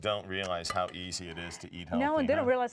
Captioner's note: sighing